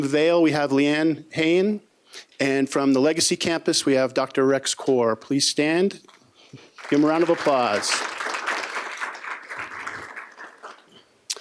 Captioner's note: applause